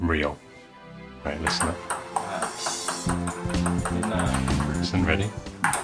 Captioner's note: ping pong ball bouncing